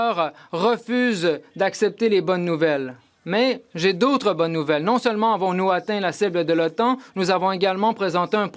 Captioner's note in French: voix de l'interprète